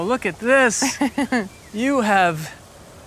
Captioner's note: Gwyneth chuckling